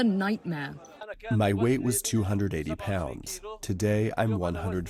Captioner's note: through translator